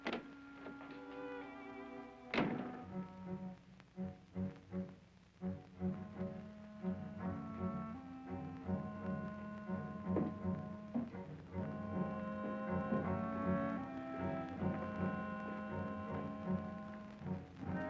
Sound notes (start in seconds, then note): 2.3 door thuds; 5.1 ominous music